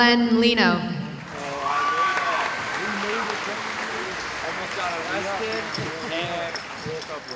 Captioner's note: cheering